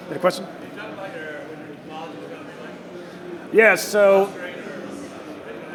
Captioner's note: crowd murmuring drowns out audience member